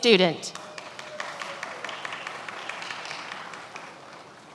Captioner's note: many applauding